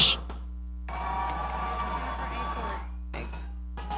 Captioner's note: audience cheering